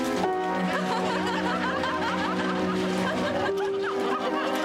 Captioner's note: people laughing